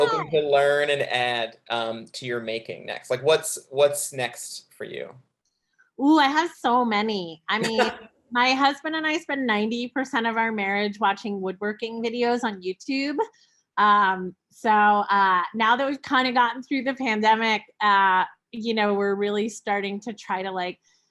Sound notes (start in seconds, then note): 7.6 chuckles